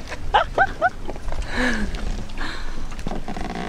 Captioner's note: laughs